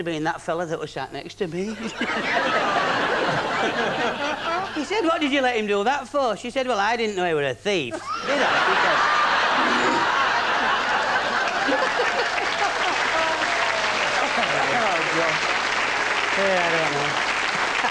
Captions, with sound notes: she said it must have been that fella sat next to me 'e said "what did you let him do that for !" she said "well I didn't know he was a thief " didi I ! [big laughs] [applause]